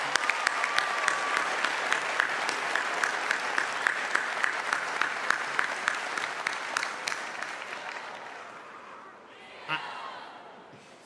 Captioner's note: cheers and applause